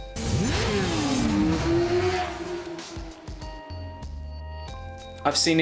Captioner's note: motorbike engine roaring